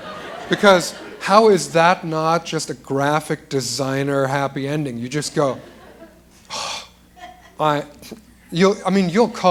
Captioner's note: exhales